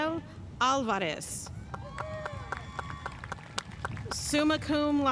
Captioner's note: audience cheering and applauding